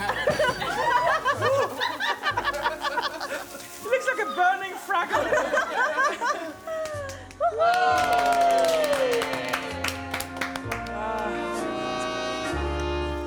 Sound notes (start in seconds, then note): 7.7 everyone cheering and clapping in approval